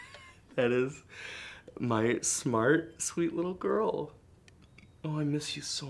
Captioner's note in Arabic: يضحك